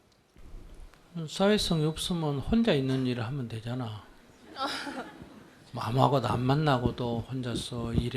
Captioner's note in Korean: 질문자 웃음